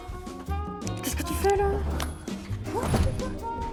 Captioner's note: cursing in French